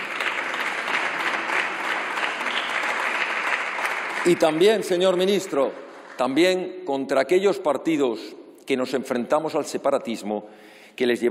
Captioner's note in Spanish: Aplausos